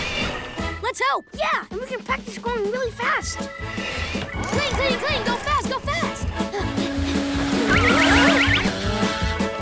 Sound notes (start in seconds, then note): 6.2 vacuum whirring; 6.5 panting; 8.4 moans